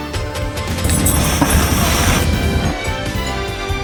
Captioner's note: hisses